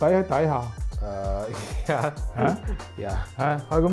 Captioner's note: laugh